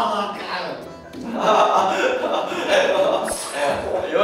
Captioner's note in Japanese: アハハ; ヘヘ